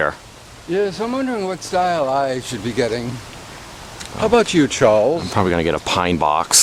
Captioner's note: in fake accent